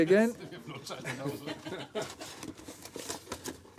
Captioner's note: laughter